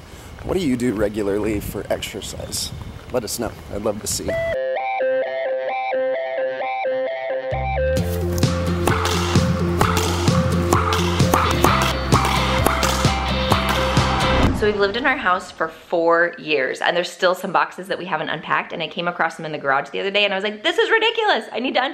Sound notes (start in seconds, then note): 5.5 upbeat music; 11.0 ball thwacking floor and walls